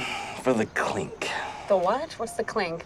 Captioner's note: sighs